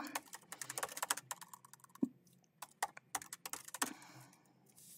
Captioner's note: keyboard clacking